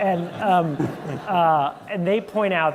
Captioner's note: laughter